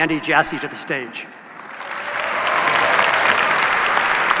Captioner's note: applause